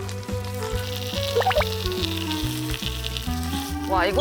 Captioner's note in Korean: 지글지글